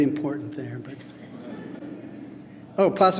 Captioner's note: laughter